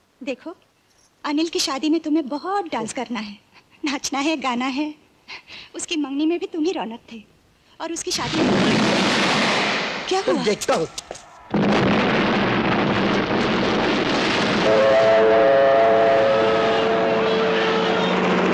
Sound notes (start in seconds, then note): 8.2 explosion; 14.6 alarm blaring